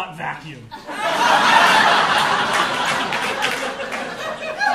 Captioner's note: audience laughing